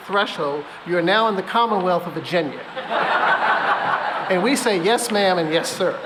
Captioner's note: laughter